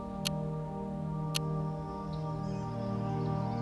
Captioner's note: chill ambient music; clock ticks